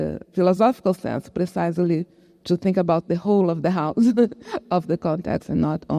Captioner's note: chuckles